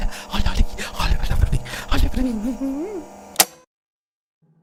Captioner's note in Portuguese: toca-fitas parando